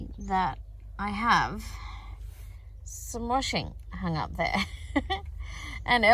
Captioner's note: chuckles